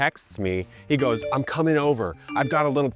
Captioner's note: tone beeping